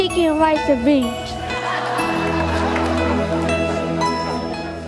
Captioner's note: audience laughs